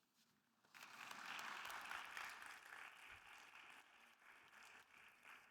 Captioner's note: audience applauding